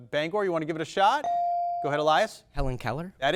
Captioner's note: bell dings